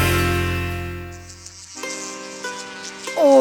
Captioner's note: flies buzzing